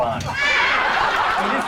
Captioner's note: laughter